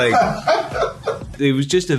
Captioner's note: laughter